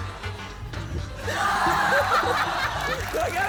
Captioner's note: laughter